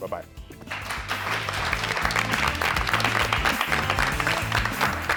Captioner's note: audience applauds